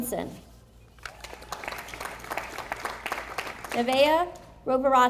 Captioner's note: audience applauding